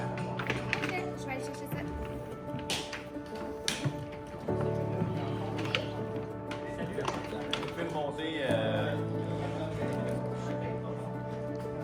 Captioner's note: door opening